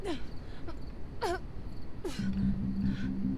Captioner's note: Linda groaning